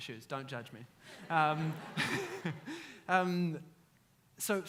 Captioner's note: audience laughs